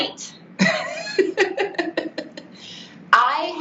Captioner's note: laughing